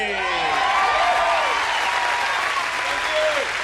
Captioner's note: audience cheers